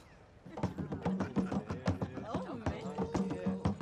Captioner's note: laughing; lively drumbeats